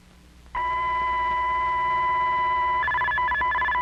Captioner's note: radio beeping